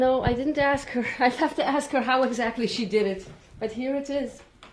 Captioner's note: laughs